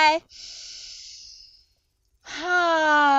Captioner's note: inhales deeply